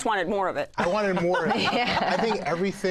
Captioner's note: laughter